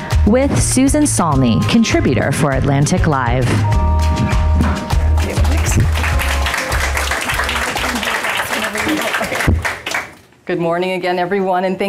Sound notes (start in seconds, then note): 4.4 upbeat music; 4.9 audience applauding